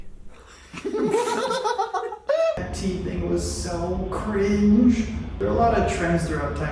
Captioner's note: laughter erupts